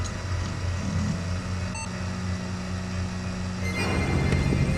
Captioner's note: computer beeps; ominous music